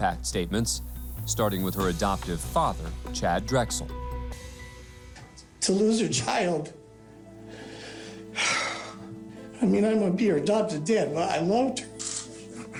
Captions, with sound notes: deliver victim impact statements, starting with her adoptive father, Chad Drexel. To lose your child... [heavy sigh] I may be her adopted dad, but I loved her.